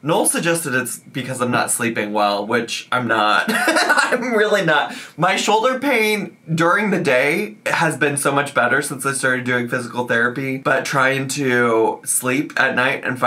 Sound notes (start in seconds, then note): 3.5 laughs